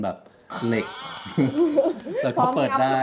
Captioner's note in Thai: เสียงหัวเราะ